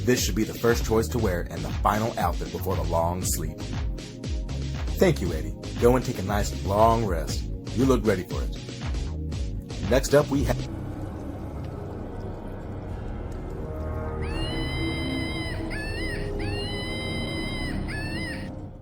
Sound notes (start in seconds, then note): 11.6 reality bending tone; 14.2 monkey screeching